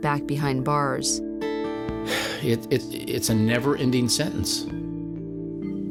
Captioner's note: sighs